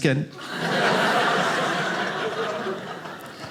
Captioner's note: audience laughing